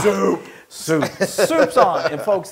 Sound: laugh

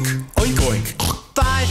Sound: snort

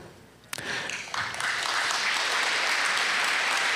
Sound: applause

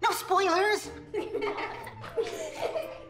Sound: kids laugh

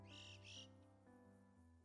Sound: cries of Yellow-billed Chocards

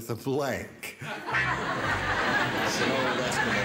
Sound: laughter

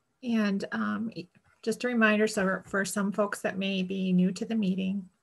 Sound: none

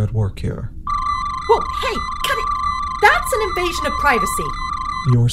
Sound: medical scanner sound

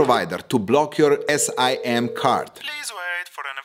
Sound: dialling

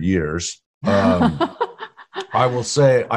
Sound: laughing

